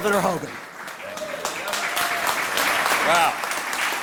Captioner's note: applause